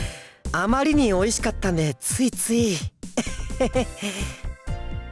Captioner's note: awkward chuckle